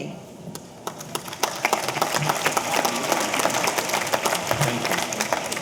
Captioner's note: audience applauding; audience cheering